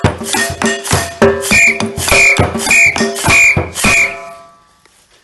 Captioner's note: five whistling sounds